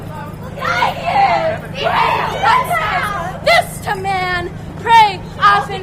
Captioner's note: audience catcalls